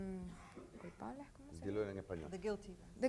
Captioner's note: speaking in foreign language